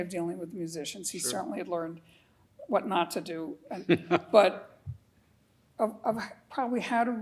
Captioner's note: laughing